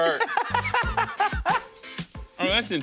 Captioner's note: laughs